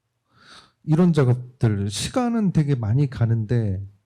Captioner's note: speaking korean